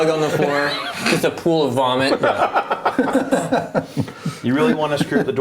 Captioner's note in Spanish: risas